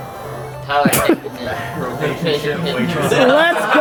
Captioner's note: laughs